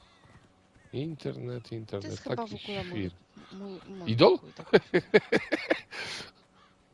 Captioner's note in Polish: śmiech